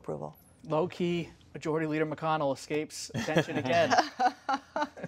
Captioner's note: laughter